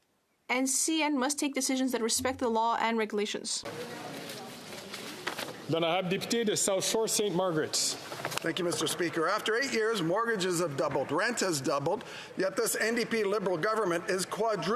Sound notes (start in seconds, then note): 10.4 speaking French